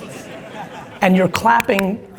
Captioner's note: audience laughing